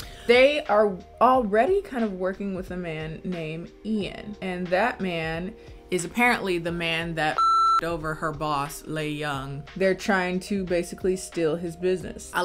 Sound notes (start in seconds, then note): 7.3 beep